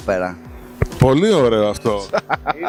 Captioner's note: laughs